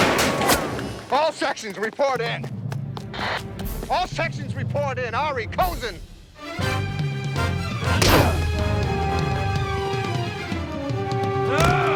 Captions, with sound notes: - All sections report in. All sections report in, Arie, Cozin. (dramatic music) (punches landing)